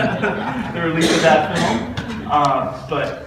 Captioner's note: audience laughter